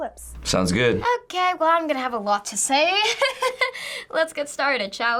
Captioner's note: laughs